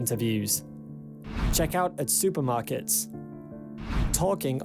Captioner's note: screen swishes; screen swishes